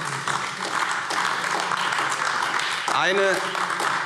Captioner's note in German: Beifall AfD